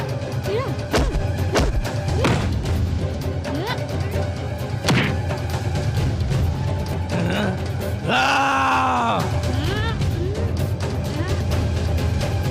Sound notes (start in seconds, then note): 7.1 grunts